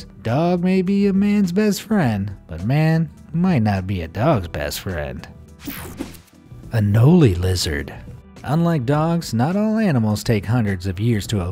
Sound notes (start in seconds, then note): 5.6 electricity buzzing